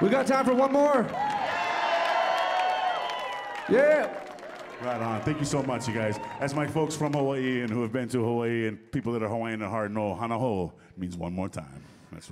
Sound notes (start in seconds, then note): 1.6 audience cheering